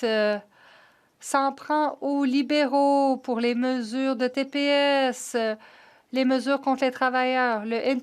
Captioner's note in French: voix de l'interprète